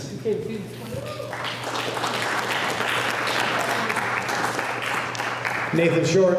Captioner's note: applause